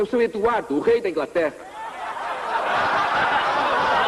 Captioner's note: laughter